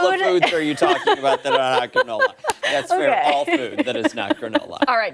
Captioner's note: laughter